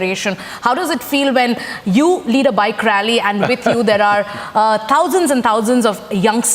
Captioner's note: Sadhguru Laughs